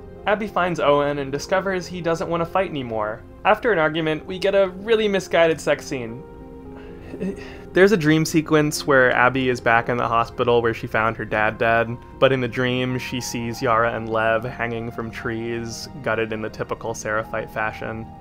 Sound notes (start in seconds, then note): 6.4 exasperated noise